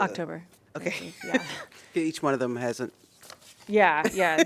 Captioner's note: laughter